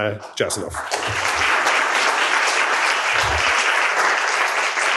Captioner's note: applause